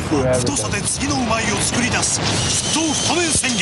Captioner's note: non-english speech